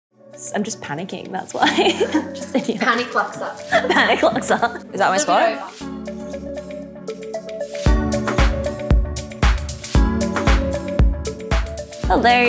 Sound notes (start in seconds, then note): 3.7 laughs